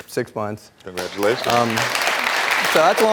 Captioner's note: audience clapping